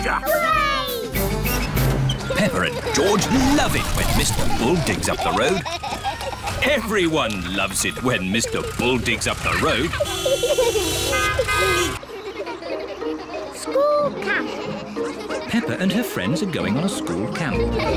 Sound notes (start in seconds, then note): 10.0 horns toot; 12.0 all giggling; 17.5 all giggle